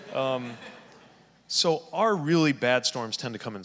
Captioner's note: audience laughing